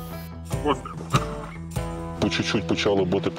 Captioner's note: mortar fire sound